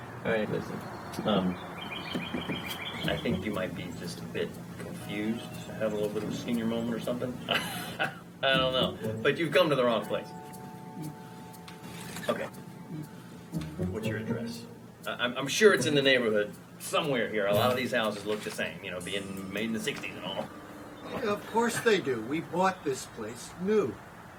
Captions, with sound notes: - All right. Listen, I think you might be just a bit confused to have a little bit of a senior moment or something (laughs) I don't know but you've come to the wrong place. Okay. What's your address? I'm sure it's in the neighborhood somewhere here. A lot of these houses look the same, you know, being made in the '60s and all. - Of course they do. We bought this place new.